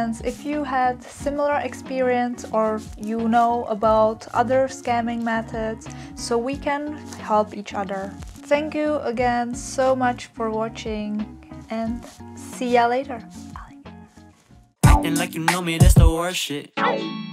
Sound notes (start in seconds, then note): 12.9 whisper